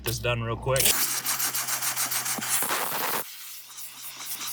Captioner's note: machine spraying